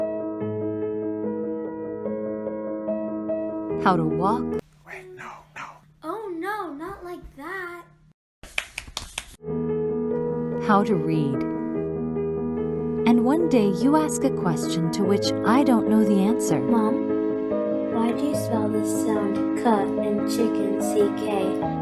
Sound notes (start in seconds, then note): 0.0 soft piano music; 4.9 whispering Voice; 8.5 clapping